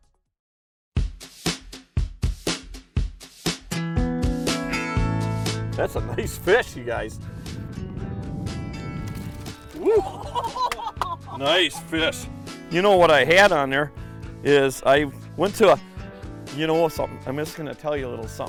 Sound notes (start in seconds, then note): 9.7 laughing in background